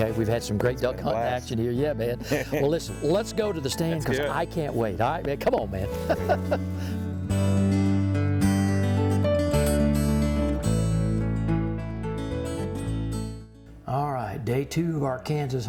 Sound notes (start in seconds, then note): 5.5 laughing; 5.9 light acoustic music